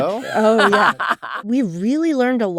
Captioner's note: laughs